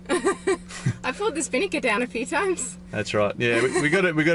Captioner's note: laughing